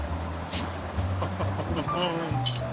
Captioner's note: laughing